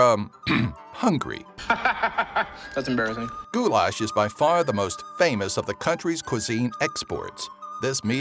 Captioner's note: ahem